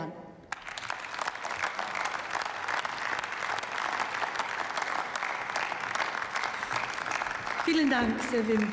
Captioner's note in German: Beifall